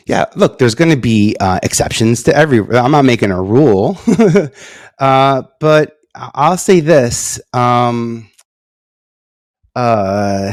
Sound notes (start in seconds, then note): 4.0 laughs